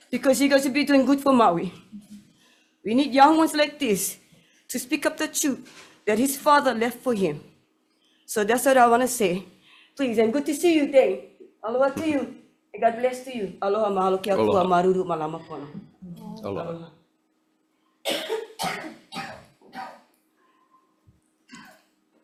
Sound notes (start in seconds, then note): 12.0 speaks foreign language; 14.9 speaks foreign language